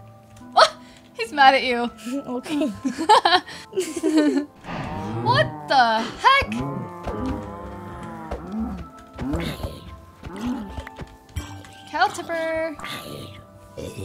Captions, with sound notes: - He's mad at you. - Okay. (laughing) - What the heck? (cows mooing) Cow tipper.